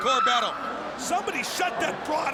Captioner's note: Daffney screams